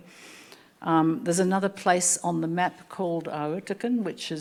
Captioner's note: speaking Anmatyer